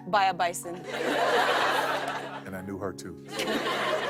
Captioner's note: laughter